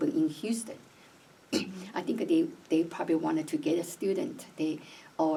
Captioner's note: clears throat